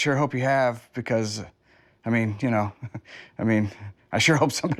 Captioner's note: laughs